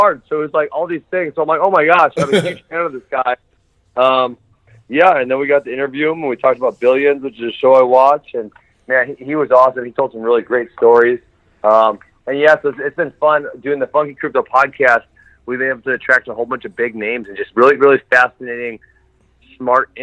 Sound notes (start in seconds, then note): 2.2 laughs